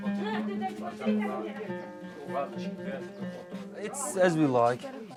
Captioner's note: indistinct chattering